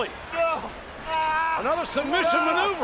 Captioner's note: groaning; groaning